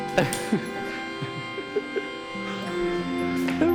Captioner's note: laughing